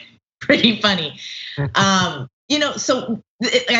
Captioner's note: laugh